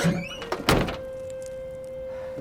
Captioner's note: trunk shuts